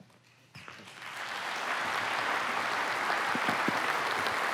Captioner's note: applause